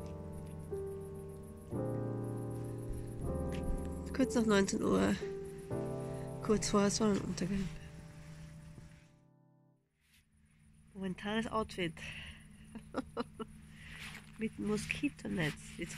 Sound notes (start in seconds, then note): 12.7 laugh